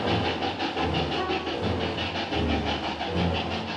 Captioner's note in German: Schnelle Dampfgeräusche